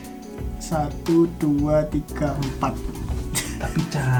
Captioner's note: counting